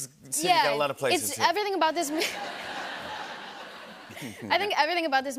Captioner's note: laughter